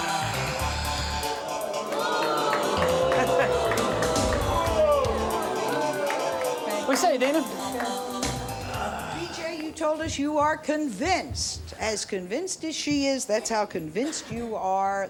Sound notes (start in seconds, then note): 1.7 audience boos